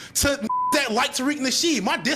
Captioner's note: beep